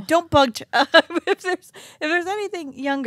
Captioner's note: stuttering